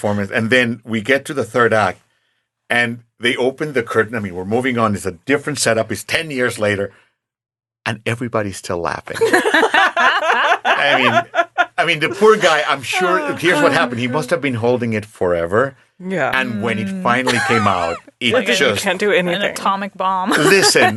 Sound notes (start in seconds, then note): 9.2 laughing; 20.3 laughing